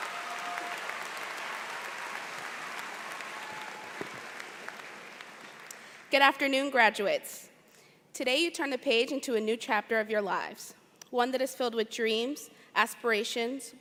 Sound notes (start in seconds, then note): 5.5 cheers and Applause